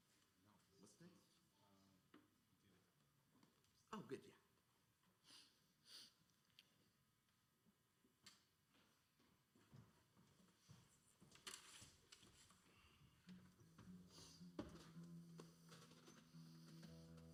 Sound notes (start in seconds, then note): 1.1 speaking faintly